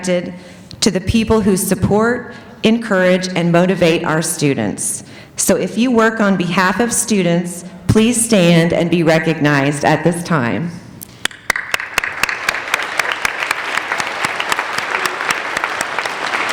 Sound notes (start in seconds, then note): 11.2 applauding